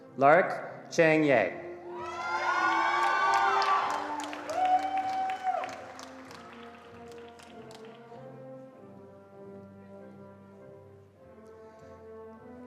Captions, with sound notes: Lark Chang-Yeh. (attendees cheering and applauding)